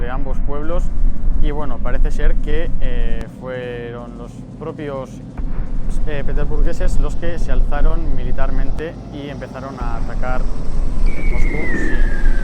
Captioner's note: distant sound of an airplane